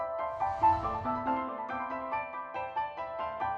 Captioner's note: ambient shimmering; dramatic piano music